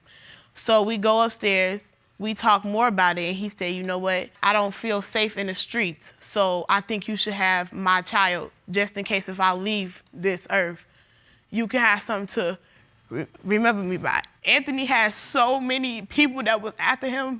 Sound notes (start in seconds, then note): 13.1 voice breaks